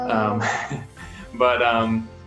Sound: laughing

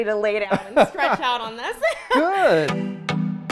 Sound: both laughs; upbeat music

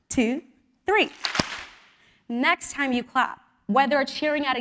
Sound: applause

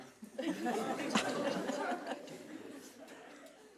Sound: people laughing

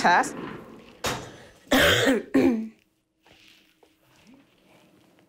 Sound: patient coughing

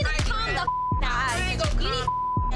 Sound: beep

